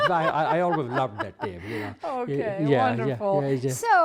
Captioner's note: laughs